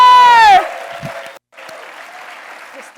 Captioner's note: audience applauds